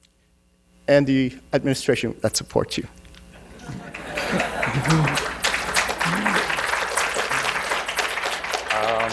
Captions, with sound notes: and the administration that support you. (audience laughing and applauding)